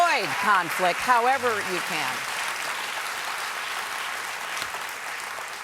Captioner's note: applause